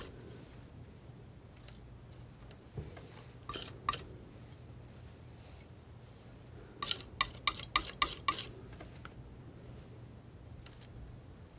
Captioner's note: scraping